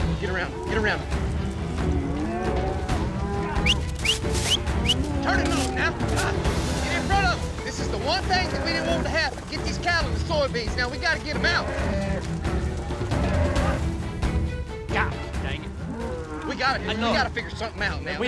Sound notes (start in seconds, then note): 3.6 whistling